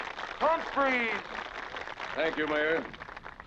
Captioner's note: applause; applause beginning